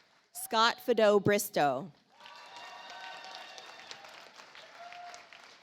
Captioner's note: audience applauds